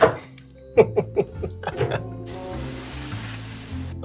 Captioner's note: laughing